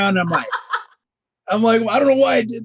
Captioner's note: laughing